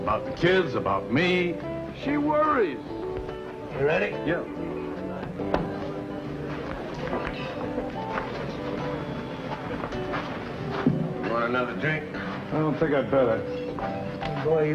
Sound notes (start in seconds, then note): 5.3 balls clacking